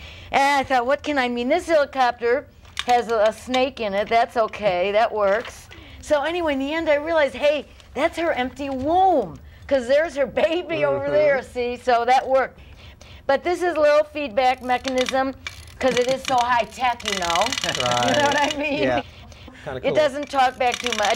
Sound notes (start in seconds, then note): 18.2 teeth chatter